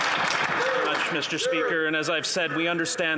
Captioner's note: applause